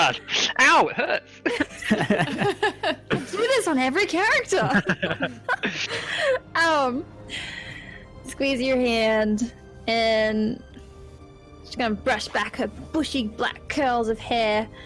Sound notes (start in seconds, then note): 1.4 all giggle again; 4.4 giggling